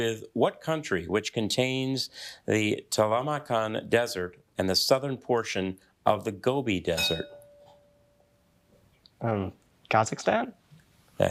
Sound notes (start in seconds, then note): 6.9 bell dinging